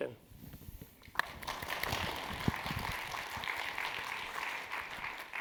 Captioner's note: audience clapping